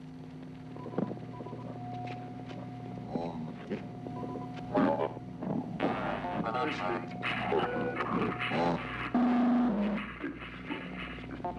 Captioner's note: static